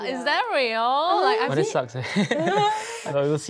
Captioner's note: laughs